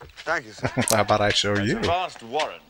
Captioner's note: chuckling